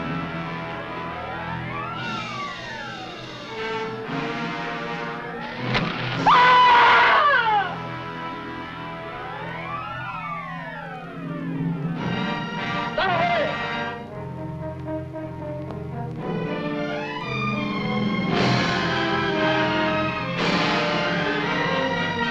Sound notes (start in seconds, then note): 5.5 arrow whooshing; 6.2 Angelica screaming; 12.9 man shouting in foreign language; 18.4 triumphant orchestral music